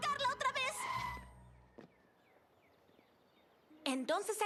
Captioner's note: tire squeal